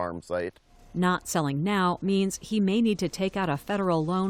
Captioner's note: voice-over